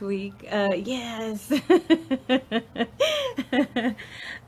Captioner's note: laughs